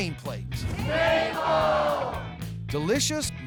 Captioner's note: everybody shouting